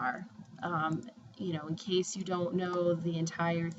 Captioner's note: spanish